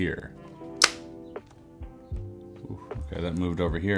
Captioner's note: button clicking